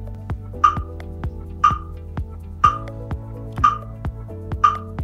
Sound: screen pops

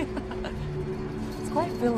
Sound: laughs

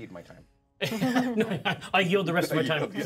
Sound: laughs

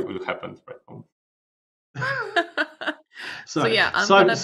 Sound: laughter

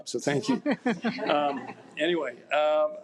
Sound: laughs

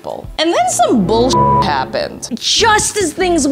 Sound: beep

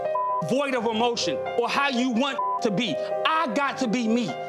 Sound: beeps

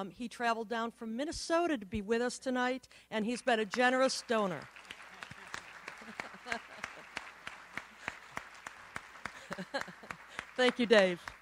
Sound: applauds

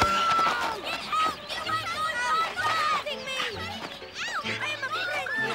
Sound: children clamoring

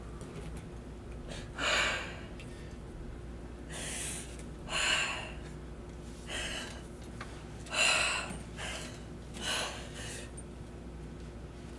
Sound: breathing heavily

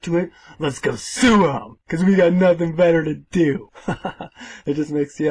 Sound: haha

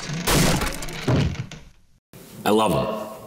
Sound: objects crashing

